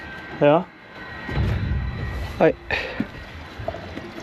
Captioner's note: rumbling from filling tank